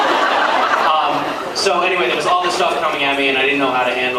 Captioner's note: laughs